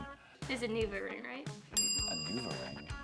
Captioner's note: bell chimes